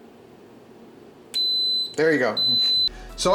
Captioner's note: beeps